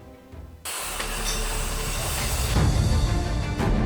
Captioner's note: construction ongoing